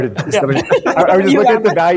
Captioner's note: laughter